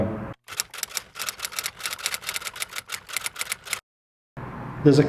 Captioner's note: keyboard clacking